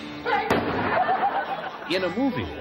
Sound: gun fires; man laughs

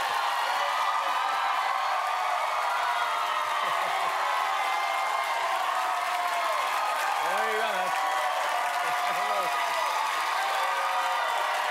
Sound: cheers and applause

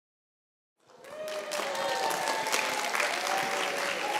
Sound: applause

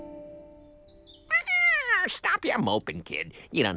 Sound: meowing

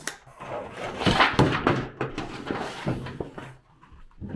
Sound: tools thumping

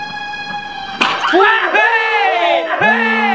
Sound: aaaaaaahhhh!

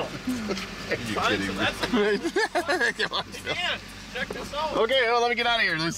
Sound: laughing

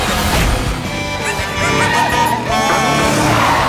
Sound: horn honking

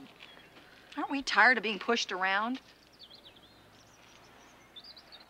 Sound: birds chirping

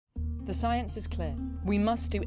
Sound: voiceover

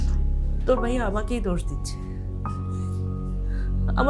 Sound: none

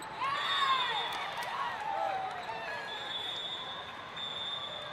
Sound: players cheering

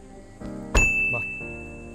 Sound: door thuds

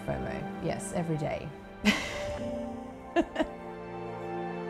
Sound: laughs

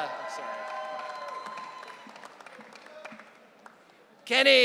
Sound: audience cheering

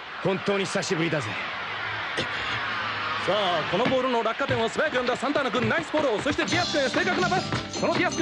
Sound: applause

